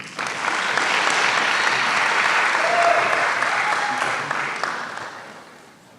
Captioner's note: applause